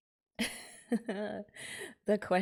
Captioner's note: laughs